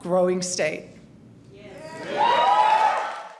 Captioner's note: cheers and applause